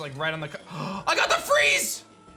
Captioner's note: gasps